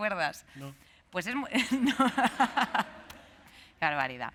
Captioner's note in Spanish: Risas